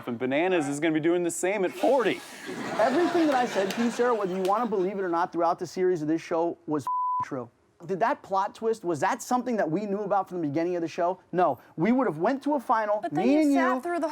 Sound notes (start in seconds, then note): 6.8 beep